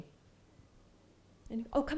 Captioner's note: silence